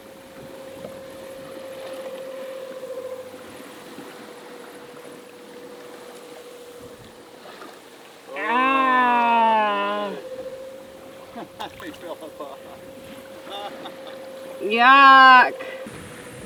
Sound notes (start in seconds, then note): 0.2 boat engine whirring; 8.3 disgusted yelling; 13.3 laughing